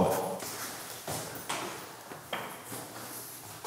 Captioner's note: sound of steps